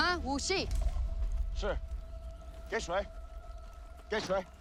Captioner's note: speaking mandarin